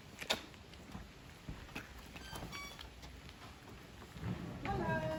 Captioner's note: door latch clicking; door squeaking open